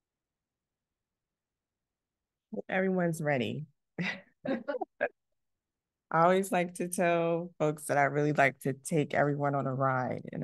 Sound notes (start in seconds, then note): 4.4 laughs